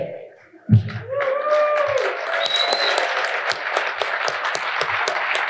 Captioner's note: audience applauding